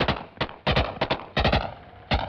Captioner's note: gunfire